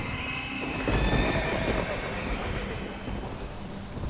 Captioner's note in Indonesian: kuda meringkik